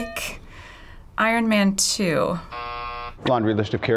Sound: hitting bell; buzzer

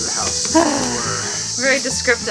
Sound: exasperated sigh

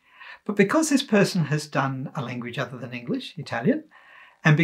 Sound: Italian

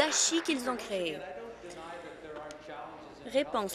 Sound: applause

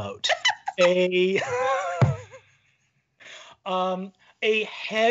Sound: laughing

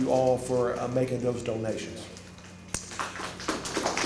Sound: applause

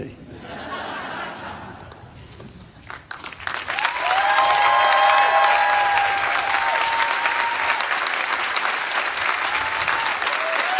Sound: applause

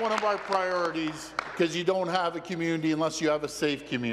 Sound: applause

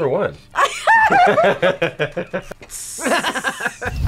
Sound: both laugh; laughs

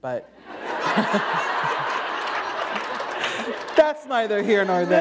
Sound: laughter

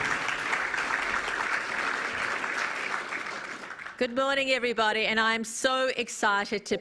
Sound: applause

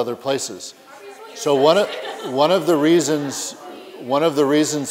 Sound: background conversations

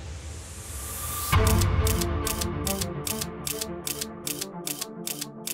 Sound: camera clicking

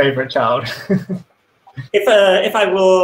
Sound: laughs

